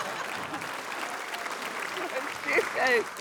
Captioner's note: cheers, applause; chuckles